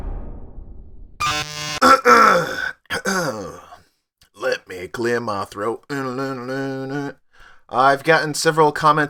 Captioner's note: clears Throat